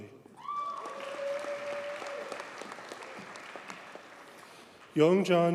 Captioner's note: audience cheers and applauds